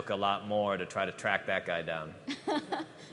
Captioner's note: laughter